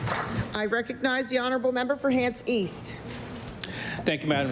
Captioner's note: applause